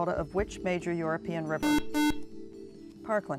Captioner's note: buzzer